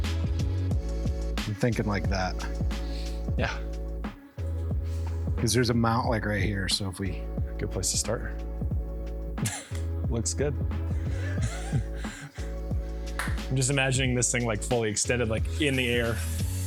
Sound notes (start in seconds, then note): 11.0 nervous laughter